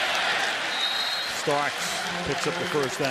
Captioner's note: whistles